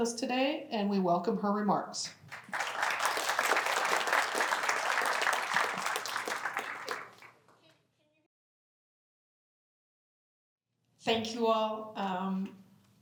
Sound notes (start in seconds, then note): 2.2 applause